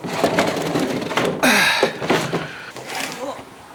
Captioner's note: Dwight groans